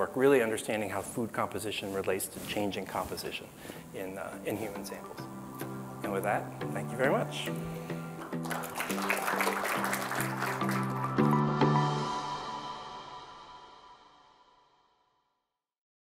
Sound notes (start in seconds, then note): 8.2 audience applauding; 10.9 instrumental music ends